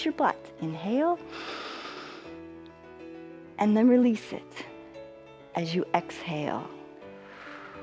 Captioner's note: inhales